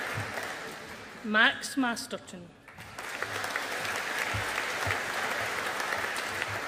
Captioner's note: audience applauding